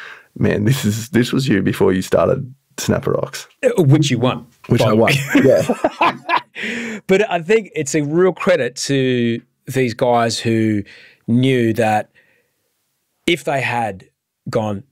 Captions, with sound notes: man, this was you before you started Snapper Ox. - Which you won. - Which I won, yeah. (both laughing) - But I think it's a real credit to these guys who knew that if they had gone,